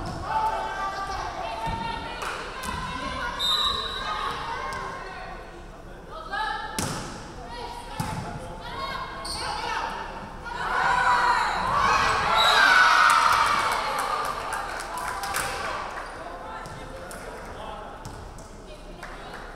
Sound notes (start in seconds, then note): 3.4 referee whistling; 12.3 referee whistling; 12.6 crowd cheering